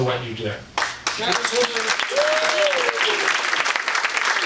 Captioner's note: audience applauding